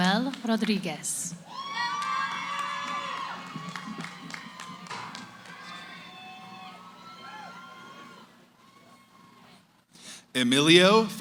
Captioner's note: cheering